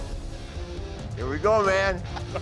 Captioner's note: laughter